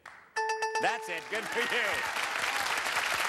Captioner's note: bell rings; cheers and applause